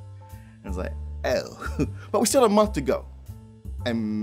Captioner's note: chuckles